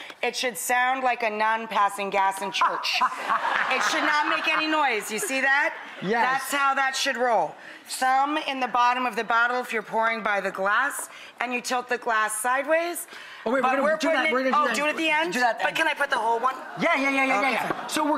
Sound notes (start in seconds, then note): 2.8 audience chuckles; 16.4 audience laughter